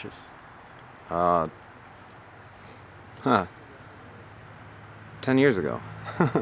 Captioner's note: laughing